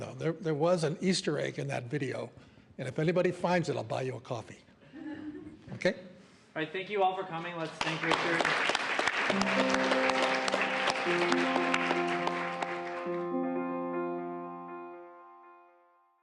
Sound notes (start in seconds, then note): 4.9 laughter; 7.6 applause